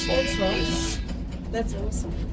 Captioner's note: horn honking